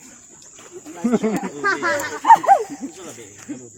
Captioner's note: laughs funny